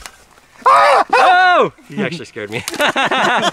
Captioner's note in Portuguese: gritos; Risos